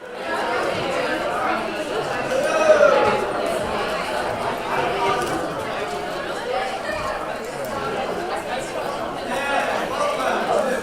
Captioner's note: background conversations